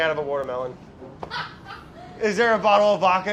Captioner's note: laughs